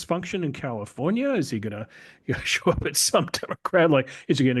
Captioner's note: laugh